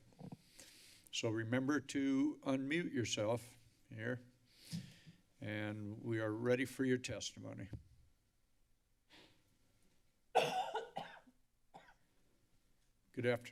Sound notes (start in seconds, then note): 0.3 inhales; 4.6 inhales; 10.3 coughing; 12.2 silence